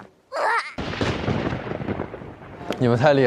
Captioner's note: stumbling